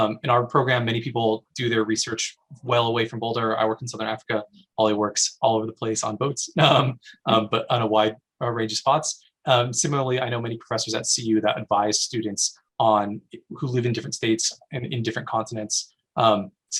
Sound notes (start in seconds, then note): 6.6 laughs